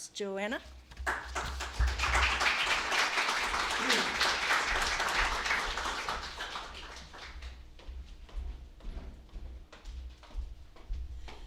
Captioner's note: applause